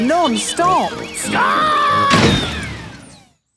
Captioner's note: thuds